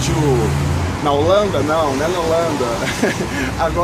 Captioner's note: laugh